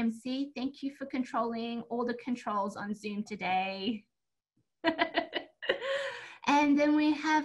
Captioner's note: laughs